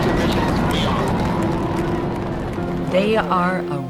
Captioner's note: crowd cheers